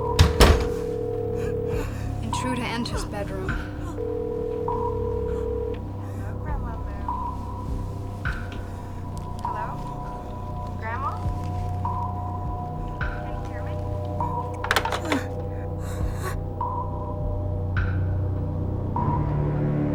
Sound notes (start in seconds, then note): 0.0 phone ringing; 3.5 gasping; 14.4 phone clicking